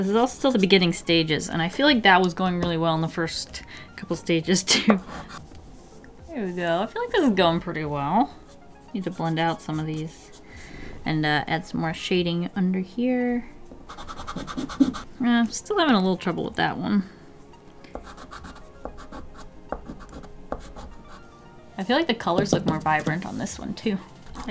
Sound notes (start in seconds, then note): 18.0 yet another set of art scraping sounds